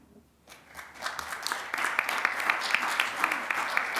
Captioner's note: applause